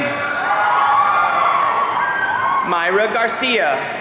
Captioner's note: audience cheering